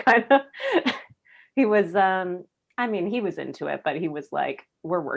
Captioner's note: laughs